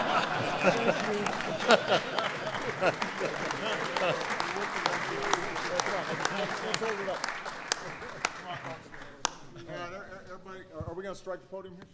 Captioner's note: applause